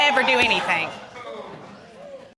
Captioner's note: audience gasping, exclaiming